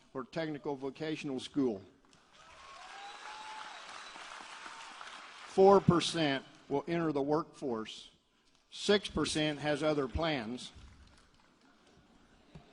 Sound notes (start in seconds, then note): 2.1 applause